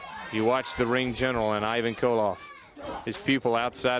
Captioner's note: crowd chatter